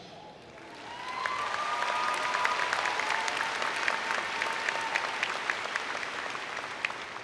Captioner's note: cheering and Applause